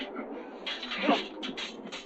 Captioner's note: thunder rumbling; grunting